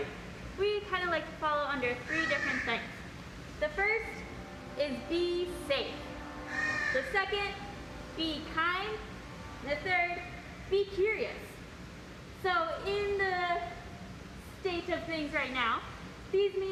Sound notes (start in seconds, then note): 2.0 bird squawk; 9.6 outdoors, a ship horn sounds